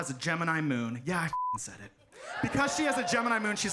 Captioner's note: beep